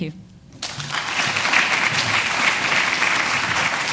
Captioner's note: applause